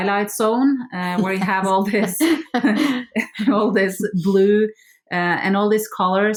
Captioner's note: all laugh